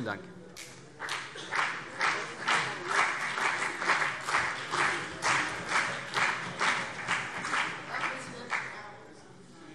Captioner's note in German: Beifall CDU und BÜNDNIS 90/DIE GRÜNEN